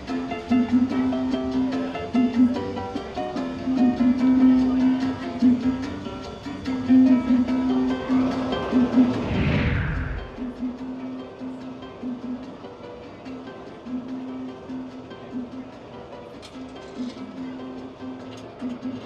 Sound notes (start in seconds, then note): 8.0 air whooshes